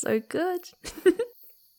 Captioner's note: giggles